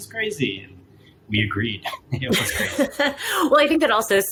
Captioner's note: laughing